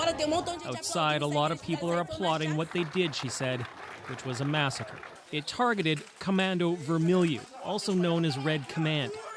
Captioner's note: speaking alternate language